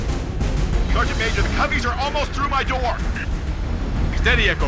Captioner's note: radio